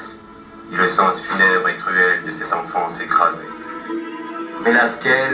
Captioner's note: voiceover of man speaking in french